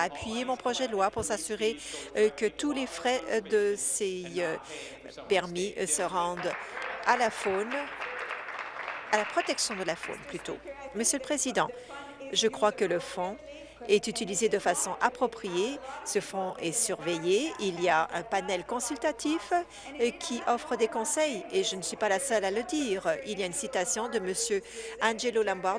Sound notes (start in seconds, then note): 10.8 applause